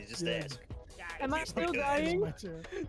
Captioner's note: laughs